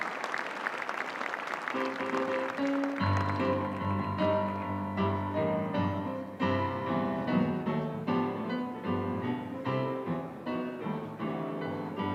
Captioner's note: applause